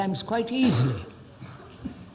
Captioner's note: laughs